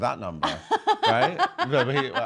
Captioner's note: laughing